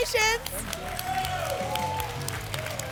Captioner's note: applause and cheering